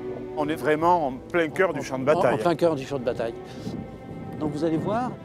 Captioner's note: none